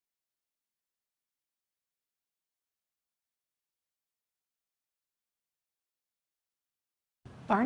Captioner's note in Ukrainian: Тиша